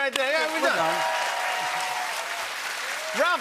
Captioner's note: cheers and applause